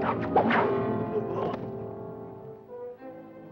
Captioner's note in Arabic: سهام تنطلق; أنين الرماة; موسيقى مشوقة